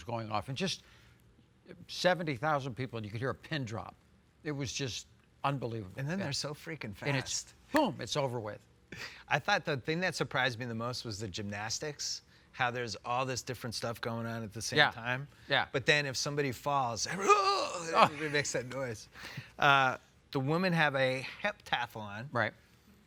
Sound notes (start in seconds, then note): 19.2 laughing